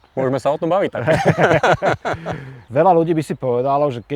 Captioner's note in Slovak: Smiech